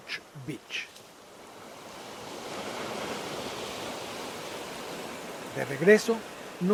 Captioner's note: waves